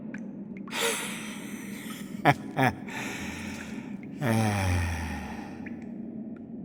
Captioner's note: laugh